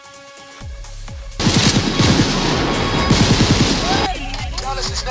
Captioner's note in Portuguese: muitos tiros